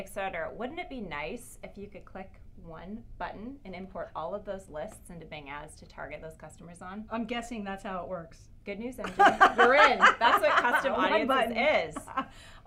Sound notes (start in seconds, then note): 9.0 laugh